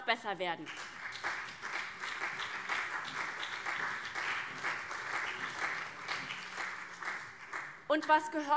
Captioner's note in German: Beifall CDU und SPD